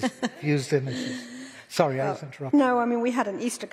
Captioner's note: laughter